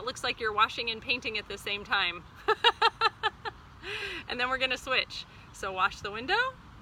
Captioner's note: laughs